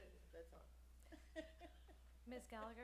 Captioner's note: laughs